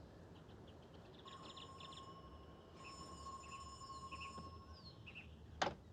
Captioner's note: doorbell ringing